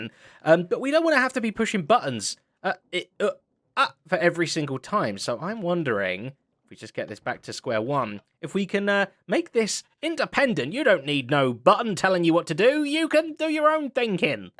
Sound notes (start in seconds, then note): none